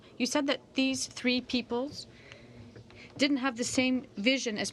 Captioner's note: speaking in french